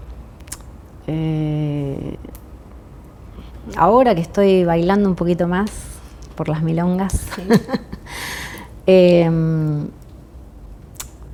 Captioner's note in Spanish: risas